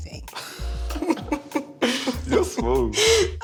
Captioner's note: both laugh